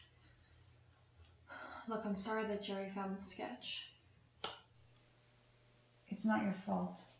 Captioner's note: sigh